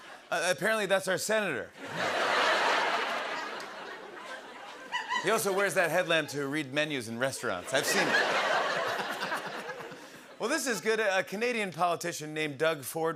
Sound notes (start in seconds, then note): 1.8 laughter; 7.4 laughter